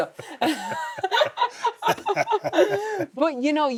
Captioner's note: Steve and Becky laughing